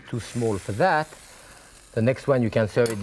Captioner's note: food sizzles